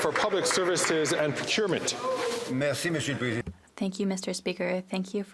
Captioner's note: applause